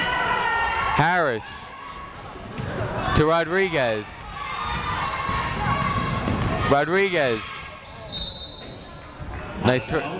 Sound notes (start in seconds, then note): 4.1 people shouting in the crowd; 8.0 whistle tweeting